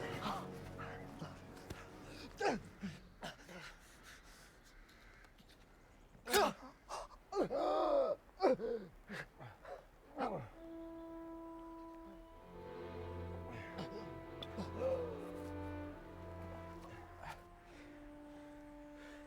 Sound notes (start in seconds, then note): 6.1 man gasps; 11.1 dramatic music